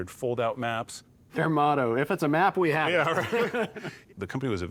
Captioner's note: chuckles